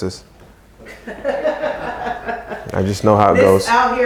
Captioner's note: laughter